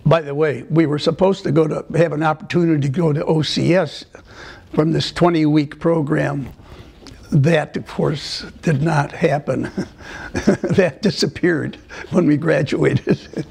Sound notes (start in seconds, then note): 9.5 laughter